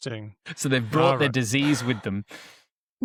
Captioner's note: laughs